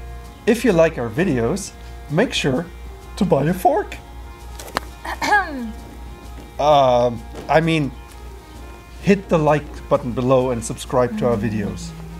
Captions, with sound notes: If you like our videos, make sure to buy a fork. (Throat clearing) Ummm... I mean, Hit the like button below and subscribe to our videos.